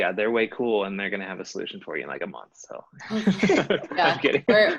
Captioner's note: laughter